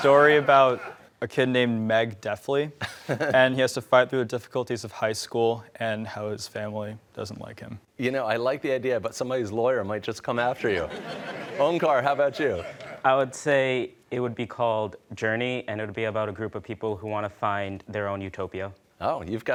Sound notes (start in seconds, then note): 10.7 laughter